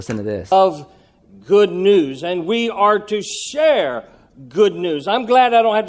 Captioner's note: male voice speaking